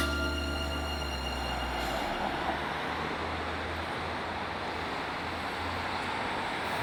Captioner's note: traffic sounds